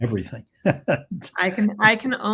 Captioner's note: laughs